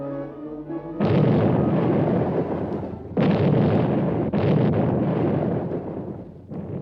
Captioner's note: explosions